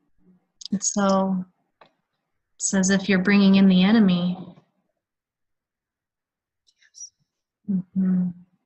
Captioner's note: whispers